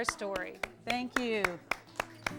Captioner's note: applause